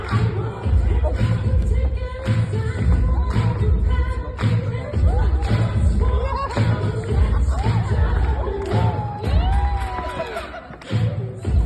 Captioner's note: applause